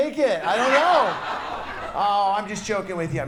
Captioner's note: audience laughs